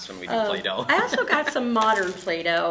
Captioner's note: laughing